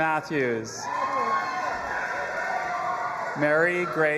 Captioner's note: audience applauding and cheering